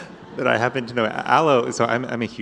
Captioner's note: laughter